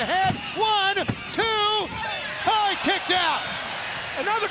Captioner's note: hand smacking